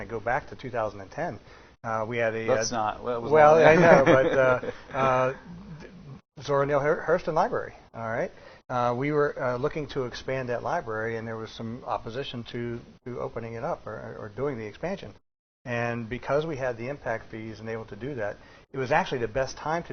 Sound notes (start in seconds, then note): 3.6 laughing